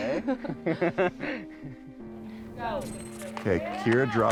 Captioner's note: both laugh